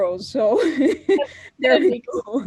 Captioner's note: laughing